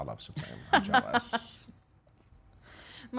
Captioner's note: laughing